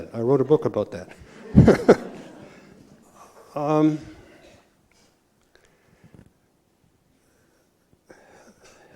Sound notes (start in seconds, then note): 1.2 laughter